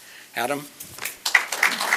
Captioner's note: applause